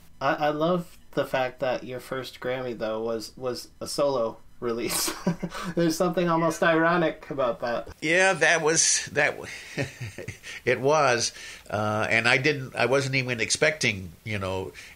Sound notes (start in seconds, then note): 4.9 laughs; 9.4 laughs